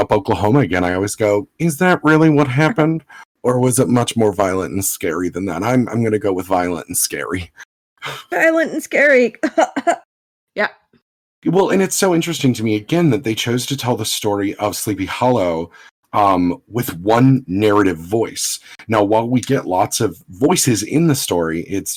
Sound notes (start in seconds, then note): 8.0 faux cough